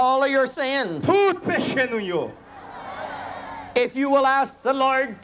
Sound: crowd cheering

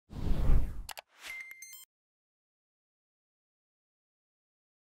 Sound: electronic beeps

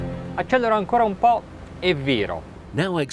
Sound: cinematic electronic music; speaking in Italian

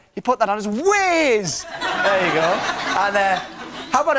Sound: crowd laughs

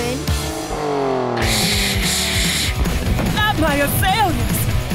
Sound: engine revving; hissing

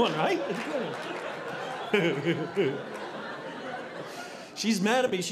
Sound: audience laughing

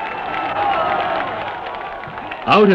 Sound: crowd cheering

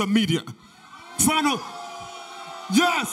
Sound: audience booing

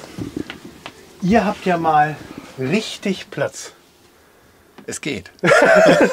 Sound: laughs

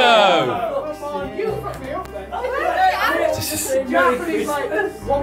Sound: group chattering

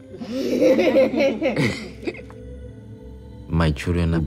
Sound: kids giggle

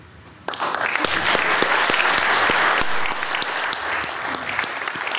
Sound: all loudly applauding

